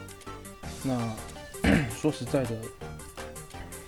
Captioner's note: cough